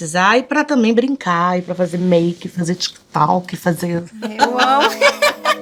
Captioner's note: laughs